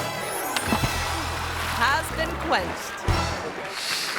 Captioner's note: water splashes